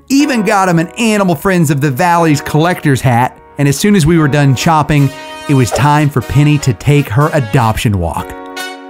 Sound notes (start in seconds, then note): 5.6 screen swooshes